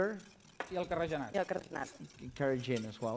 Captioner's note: non-english speech